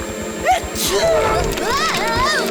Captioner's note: sneezing